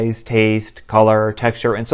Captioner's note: none